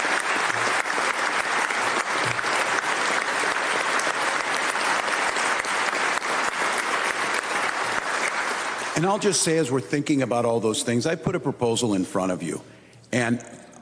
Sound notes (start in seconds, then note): 0.0 applause